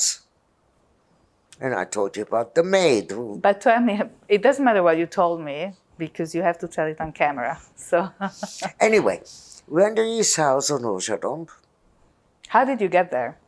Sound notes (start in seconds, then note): 8.2 laughing